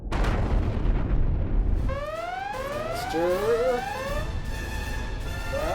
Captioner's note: alarm sounds